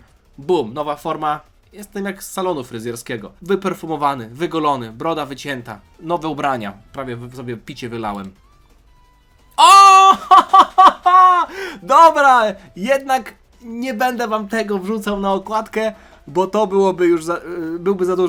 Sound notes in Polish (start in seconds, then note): 9.9 śmiech